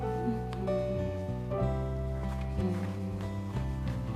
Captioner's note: Marie humming